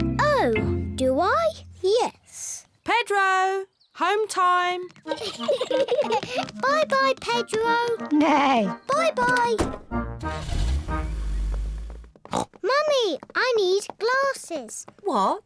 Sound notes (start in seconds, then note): 5.1 kids laugh; 8.8 neighs; 12.2 snorts